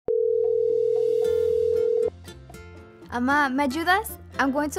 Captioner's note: phone ringing